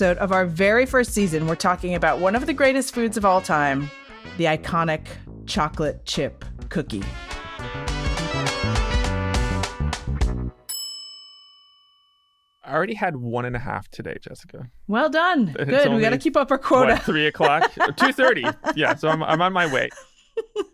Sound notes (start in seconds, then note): 6.5 upbeat music; 11.4 oven timer dinging